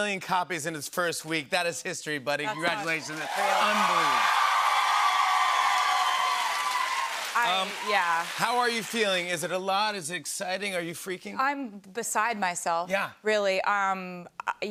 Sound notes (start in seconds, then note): 4.6 cheers and applause